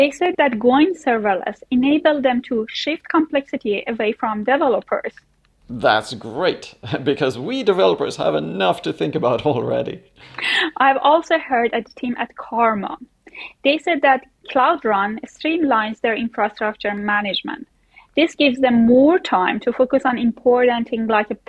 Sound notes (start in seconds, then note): 10.2 chuckling